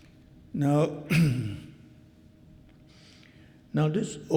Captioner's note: clears throat